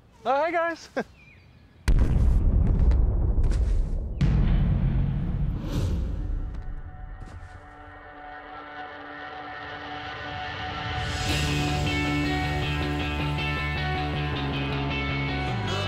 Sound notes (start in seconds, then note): 0.8 chuckles; 1.8 explosion; 5.7 intense music; 11.4 upbeat lively music